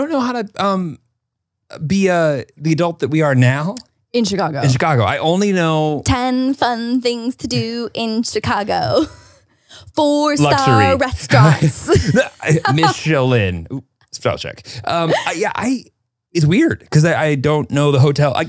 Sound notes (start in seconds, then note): 12.3 laugh